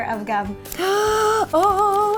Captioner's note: excited gasp